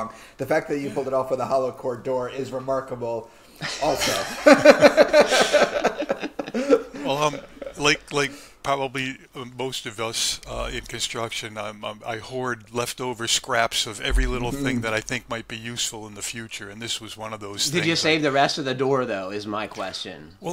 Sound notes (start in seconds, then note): 3.6 laughter